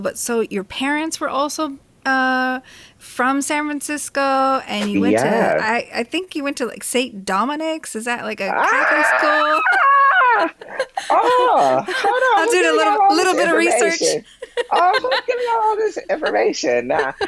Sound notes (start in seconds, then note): 10.0 laughing; 10.0 squealing